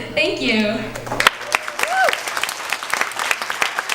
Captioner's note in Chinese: 掌聲